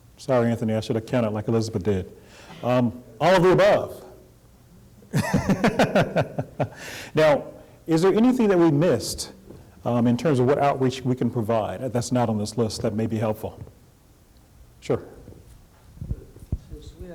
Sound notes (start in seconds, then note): 5.1 laughter